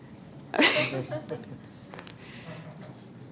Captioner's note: laughing